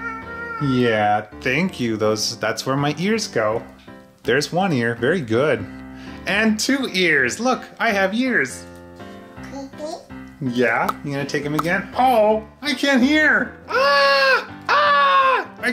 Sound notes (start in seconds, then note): 9.5 mumbles; 14.6 screams